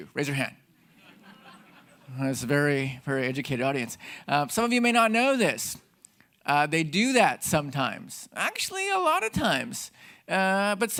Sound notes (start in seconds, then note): 0.8 audience laughing